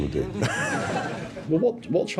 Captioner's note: laughter